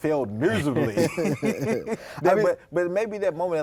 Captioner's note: both laugh